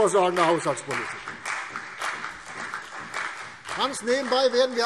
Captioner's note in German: Beifall CDU und BÜNDNIS 90/DIE GRÜNEN